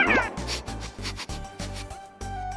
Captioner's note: sniffing